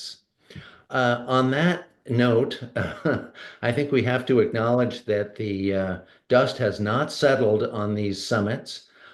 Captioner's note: laughs